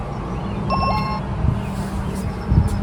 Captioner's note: ding-dong